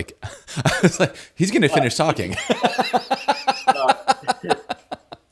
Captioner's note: laughs